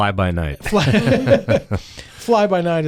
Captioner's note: laughing